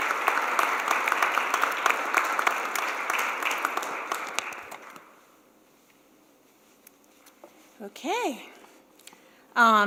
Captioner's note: applause